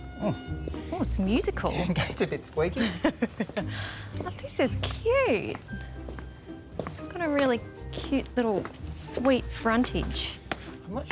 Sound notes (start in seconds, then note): 0.6 creaking; 2.7 laughing